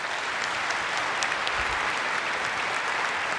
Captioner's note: applause